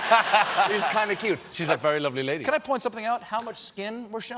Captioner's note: laughter